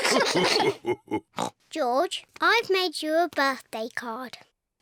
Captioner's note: all laugh; oinks